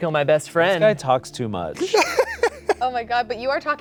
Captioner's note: laughing